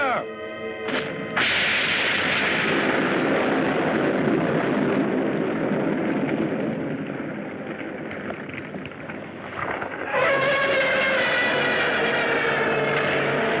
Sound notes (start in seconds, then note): 1.2 explosions booming; 10.0 Gammera screeches